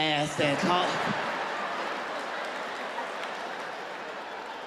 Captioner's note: audience laughs